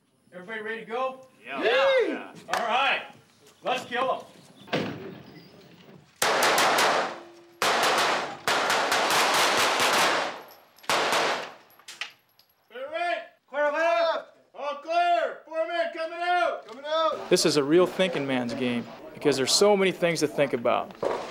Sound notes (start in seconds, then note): 0.3 voiceover; 1.5 group agreeing; 3.6 voiceover; 7.6 guns firing; 12.9 voiceover